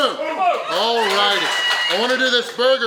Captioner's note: audience cheering